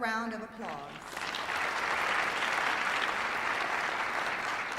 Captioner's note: applause